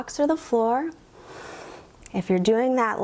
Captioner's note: inhales